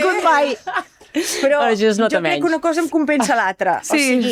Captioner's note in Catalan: rialles